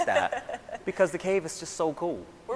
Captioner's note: laughing